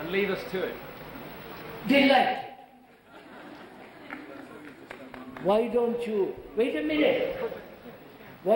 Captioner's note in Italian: risate